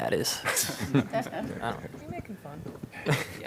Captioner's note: laughter